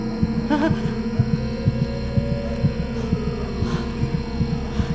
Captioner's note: Caroline moaning